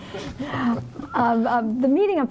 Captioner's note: group laughing